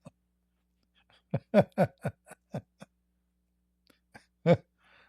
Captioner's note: Ketawa